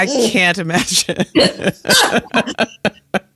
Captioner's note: laughs